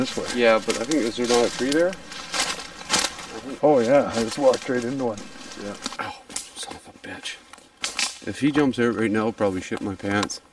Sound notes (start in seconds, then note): 2.2 scraping noise